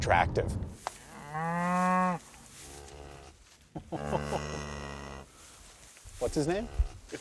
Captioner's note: chuckles; cows mooing